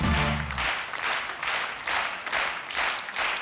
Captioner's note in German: Applaus